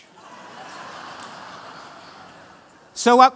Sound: laughter

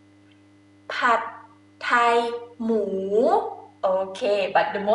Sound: talking in foreign language

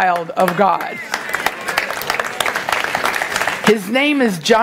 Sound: congregation applauding

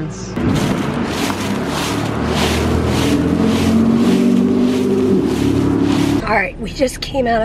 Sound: leaves crunching

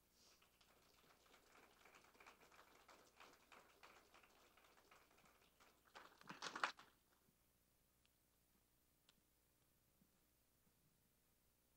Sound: applause

